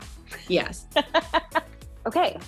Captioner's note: laughing